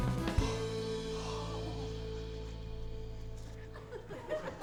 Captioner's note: gasps; laughter